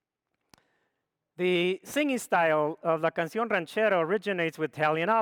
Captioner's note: speaks foreign language